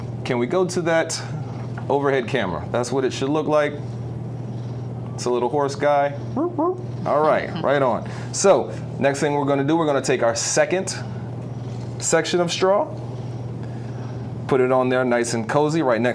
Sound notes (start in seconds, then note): 6.3 hooting